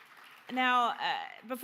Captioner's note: audience applause